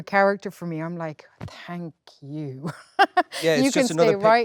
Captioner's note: laughs